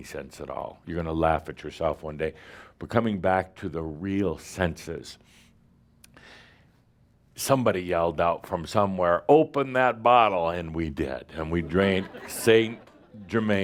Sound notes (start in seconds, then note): 11.6 laughter